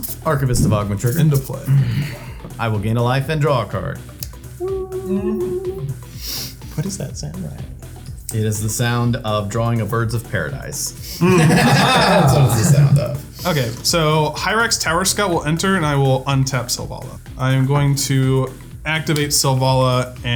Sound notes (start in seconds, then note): 11.1 all laughing